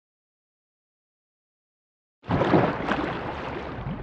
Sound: splashing sound

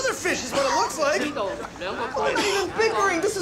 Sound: man speaking foreign language

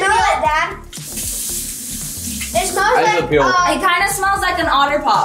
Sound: water running

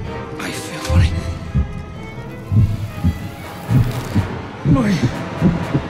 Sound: heart thumping

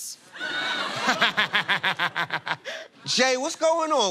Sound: laughter

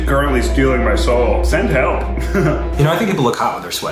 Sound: laughs

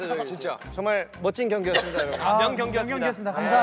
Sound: cough

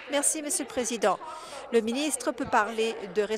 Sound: applause

